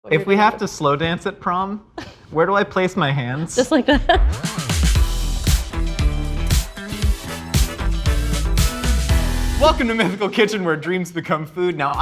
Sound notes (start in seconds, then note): 3.4 laughing; 5.3 upbeat music